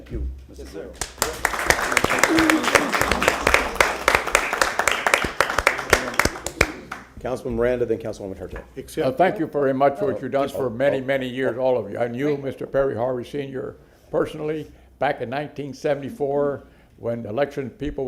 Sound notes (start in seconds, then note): 4.1 applause